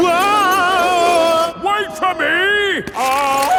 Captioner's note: yelling